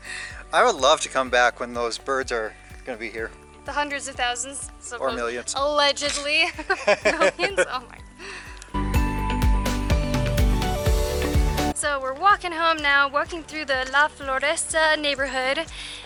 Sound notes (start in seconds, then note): 6.1 laughter